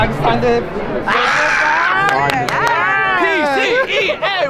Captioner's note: screaming